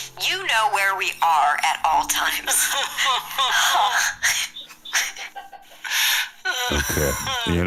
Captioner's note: sobs; cast laughs